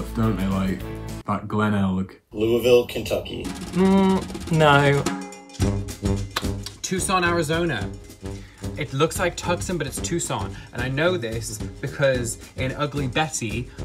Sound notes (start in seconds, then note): 3.4 dramatic sound; 3.5 humming